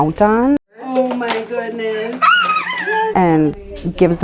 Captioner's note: child squeals